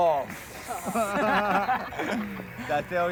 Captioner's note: all laughing